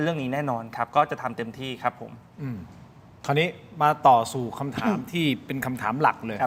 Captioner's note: clears throat